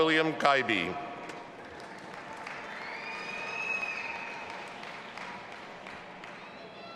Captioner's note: audience applauding and cheering